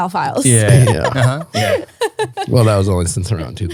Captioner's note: laughing